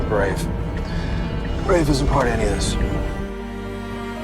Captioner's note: voiceover